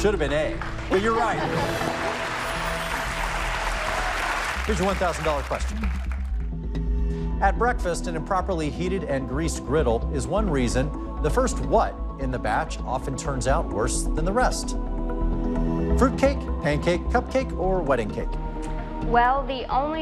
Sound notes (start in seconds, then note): 2.3 applause